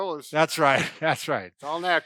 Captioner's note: laughs